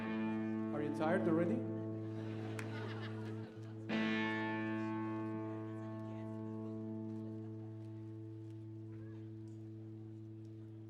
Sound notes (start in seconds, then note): 1.7 audience laughing